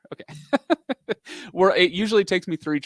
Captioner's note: laughs